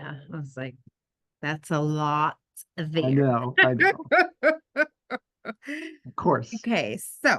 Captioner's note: laughter